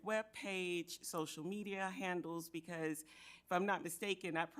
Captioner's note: none